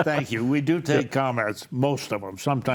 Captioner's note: panelists laughing